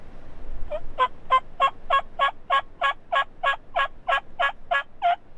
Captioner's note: turkey calling